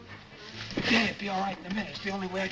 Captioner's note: crash